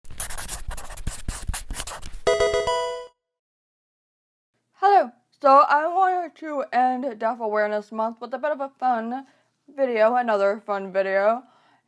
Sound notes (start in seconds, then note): 0.1 pen writing; 2.3 Pokemon game sound